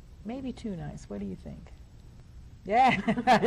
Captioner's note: laughs